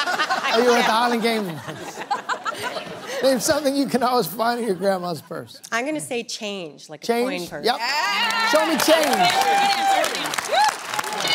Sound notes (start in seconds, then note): 0.0 laughter